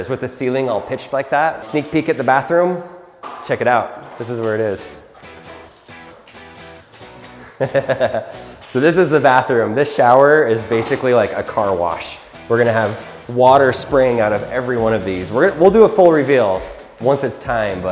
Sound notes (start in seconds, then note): 7.2 laughing